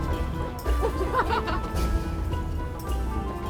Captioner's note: woman chuckles